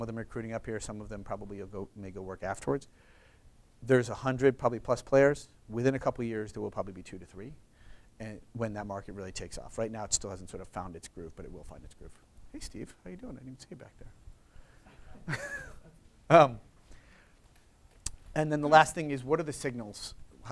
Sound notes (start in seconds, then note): 14.8 laughs